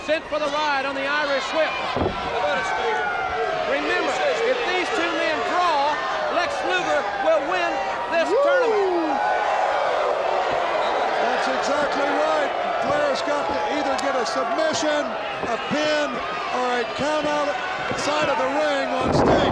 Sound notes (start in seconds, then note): 8.6 Ric howling; 8.6 crowd howling